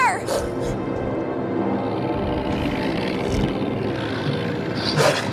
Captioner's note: dog snarling; dog barking